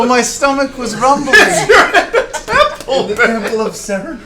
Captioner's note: laughing